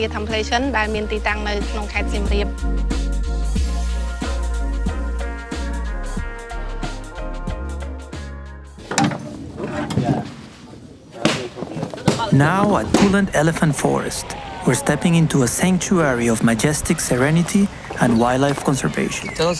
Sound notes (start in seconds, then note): 11.1 shoes clacking